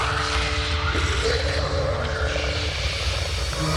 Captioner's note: growling